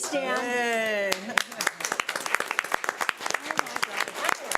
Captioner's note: audience clapping